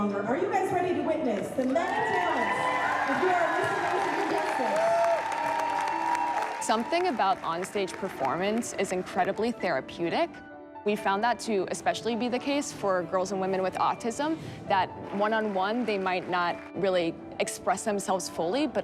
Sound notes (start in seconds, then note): 5.0 cheering, applause